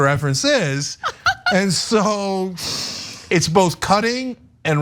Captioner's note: laugh